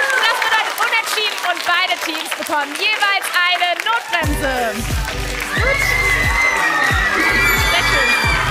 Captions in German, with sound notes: Das ist ein Unentschieden. Beide Teams bekommen jeweils eine Notbremse. (Jubel und Applaus) (Fröhliche Musik)